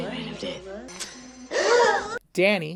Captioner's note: three witches gasp